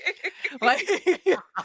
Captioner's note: laughing